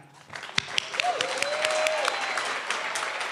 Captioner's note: clapping